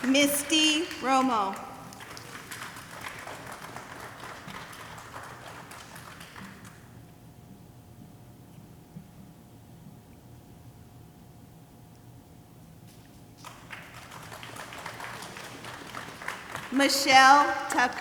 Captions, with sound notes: Misty Romo. (audience applauding) (audience applauding) Michelle Tucker.